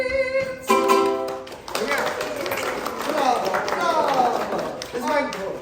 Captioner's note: applause